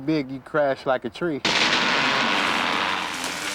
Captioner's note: creaking